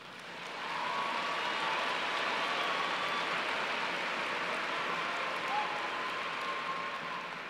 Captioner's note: applause